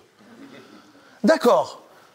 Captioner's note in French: Rires